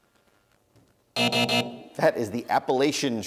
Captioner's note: buzzer